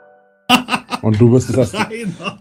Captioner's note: laughs